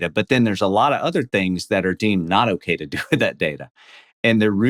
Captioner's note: laughs